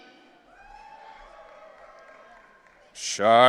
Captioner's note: audience cheering